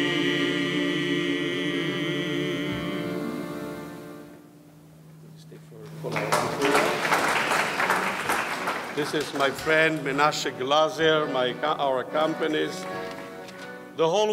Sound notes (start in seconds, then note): 7.8 audience clapping